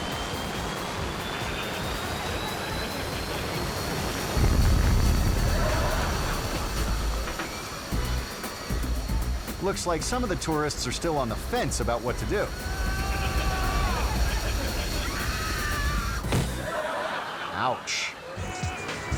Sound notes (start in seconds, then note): 1.7 audience laughing; 1.7 jet roaring; 4.8 dramatic music; 4.8 jet roaring; 13.2 beach goers screaming; 14.8 audience laughing; 14.8 beach goers screaming; 16.2 woman crashing; 16.4 audience laughing; 19.0 beach goers laughing; 19.0 dramatic music